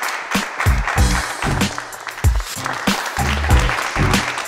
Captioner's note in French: Applaudissements